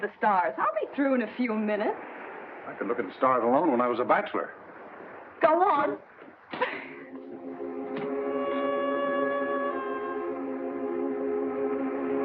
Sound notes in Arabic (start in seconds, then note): 6.5 كوني تضحك; 7.0 موسيقى هادئة